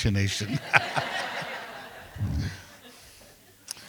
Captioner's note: laughing